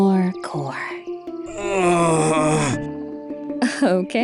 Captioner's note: exhales; groans in pain